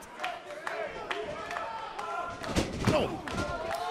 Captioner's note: crowd cheering